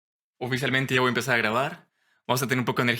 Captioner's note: in Spanish